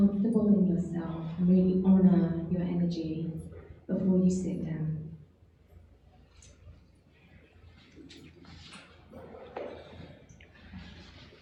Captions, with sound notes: Get comfortable in yourself. Really honor your energy. **** (rustling)